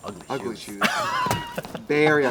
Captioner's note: Katya laughs